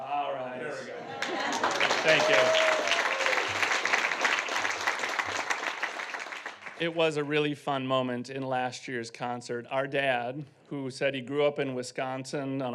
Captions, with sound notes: - All right, there we go. Thank you. (audience applauding and whooping) It was a really fun moment in last year's concert. Our dad, who said he grew up in Wisconsin